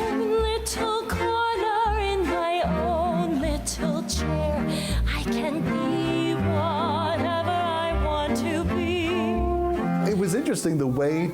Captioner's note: talking over singing